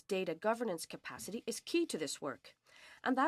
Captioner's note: speaking French